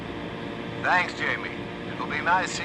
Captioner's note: on the radio